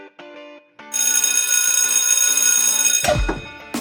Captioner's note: bell ringing